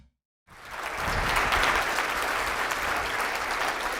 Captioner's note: crowd applause